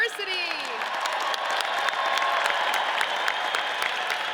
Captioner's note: audience cheers